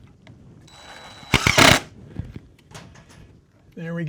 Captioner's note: drill whirring